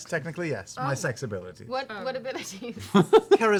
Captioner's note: laughs